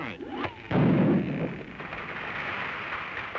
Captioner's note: explosion